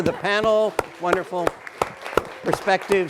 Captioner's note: audience applauding